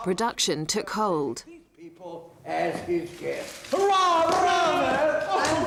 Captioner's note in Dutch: personages mompelen